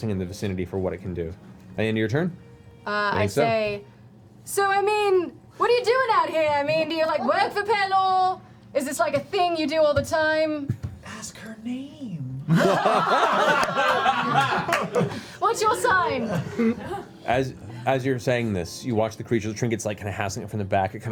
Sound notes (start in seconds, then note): 11.5 whispers; 12.5 laughter